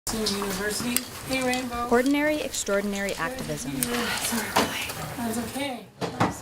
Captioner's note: talking in Background